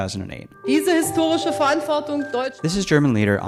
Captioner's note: speaks in German